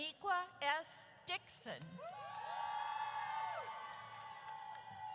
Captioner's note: audience cheers